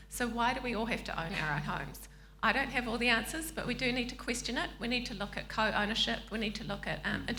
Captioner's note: none